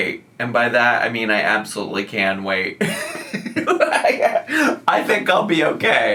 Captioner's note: laughs